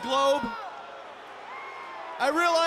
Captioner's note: crowd boos